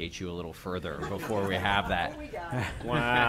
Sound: laughter

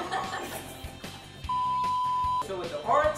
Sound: laughs

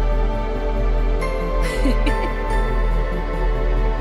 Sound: giggling

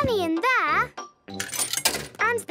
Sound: coin tumbling

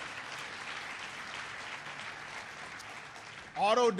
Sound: applause

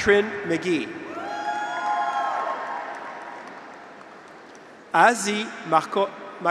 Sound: graduates cheer; audience applauds

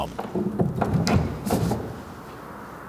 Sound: rumble

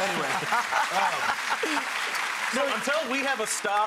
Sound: laughter; applause

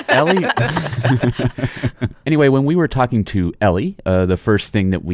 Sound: laughs

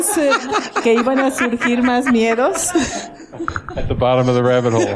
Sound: laughter

